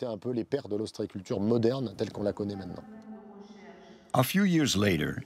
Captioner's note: speaking in foreign language